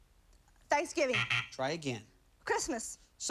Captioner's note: buzzer